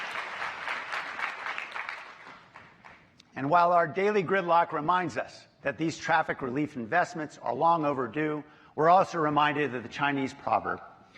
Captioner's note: applause